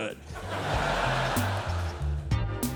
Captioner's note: audience laughing; light electronic music